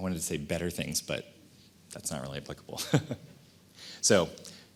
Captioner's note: laughs